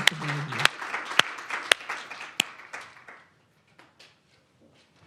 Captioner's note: audience applauding